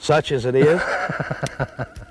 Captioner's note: laughter